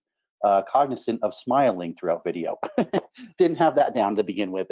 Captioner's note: laughing